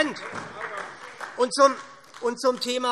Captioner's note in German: Beifall SPD